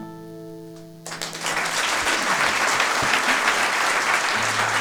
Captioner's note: applause